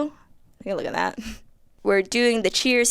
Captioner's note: chuckles